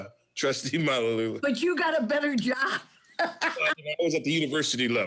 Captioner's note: laughs